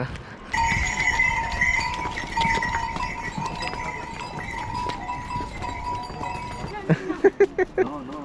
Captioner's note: cow bells; laughing